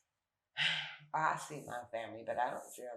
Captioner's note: sighs